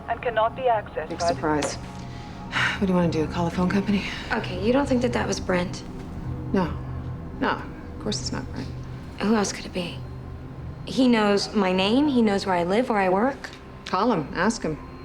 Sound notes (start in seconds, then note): 2.9 sighs